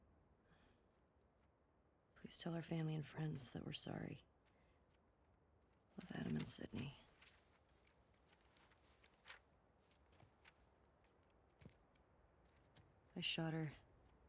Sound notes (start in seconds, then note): none